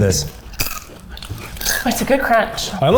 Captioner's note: crunching